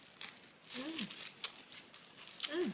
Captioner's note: shivering